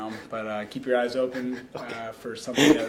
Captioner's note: laughing